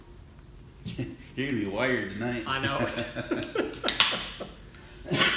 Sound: laughing off camera

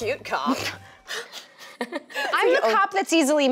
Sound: laughter

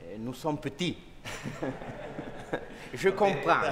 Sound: speaking french

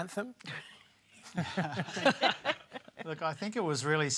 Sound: laughter

